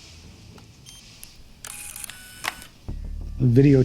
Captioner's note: camera turns off